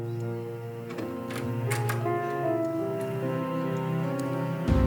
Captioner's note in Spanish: sonido al abrir la puerta